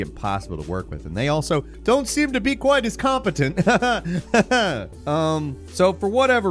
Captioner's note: laughs